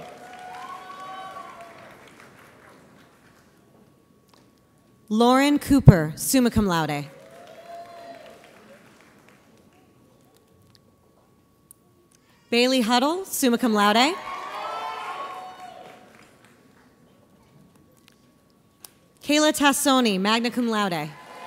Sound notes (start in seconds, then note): 0.0 audience applauds; 7.1 audience applauds; 14.2 audience cheers